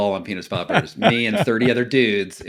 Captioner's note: laughing